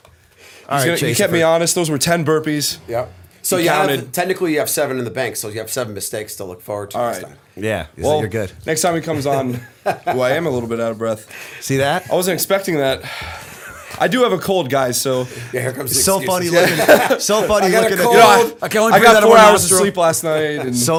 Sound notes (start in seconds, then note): 10.8 chuckle; 16.4 laughter